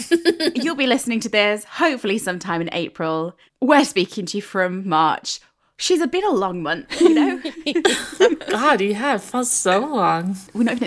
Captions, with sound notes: but you'll be listening to this hopefully sometime in April. - We're speaking to you from March. She's been a long month, you know? (laughing) - God, he has, that's so long.